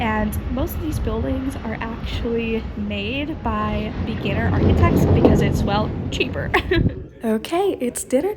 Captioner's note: laughing